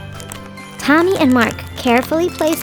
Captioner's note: wood crackling